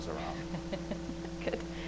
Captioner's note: laughs